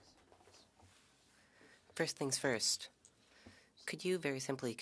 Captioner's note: speaking French